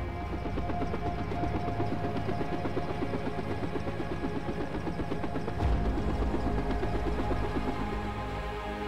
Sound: helicopter sound

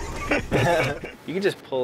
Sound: laughs

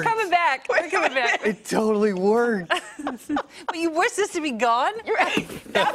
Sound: laughter

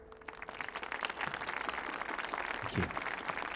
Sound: audience clapping

